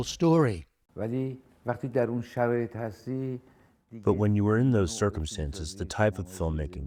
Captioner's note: through translator